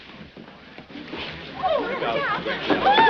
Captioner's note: crowd clamors